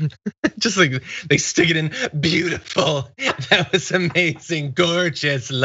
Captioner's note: laugh